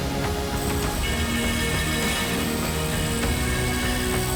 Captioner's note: machinery grinding